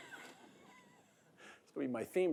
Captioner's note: audience laughing